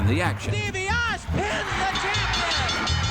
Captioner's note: audience cheering